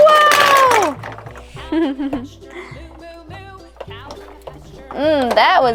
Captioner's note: woman giggles